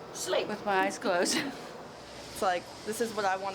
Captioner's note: laughing